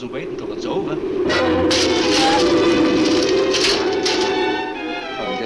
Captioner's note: debris clatters; dark orchestral music